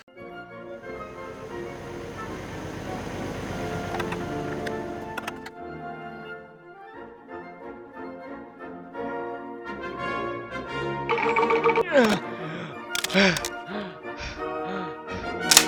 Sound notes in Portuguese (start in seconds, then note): 0.8 Barulho de tanque; 11.1 Suspiros de cansaço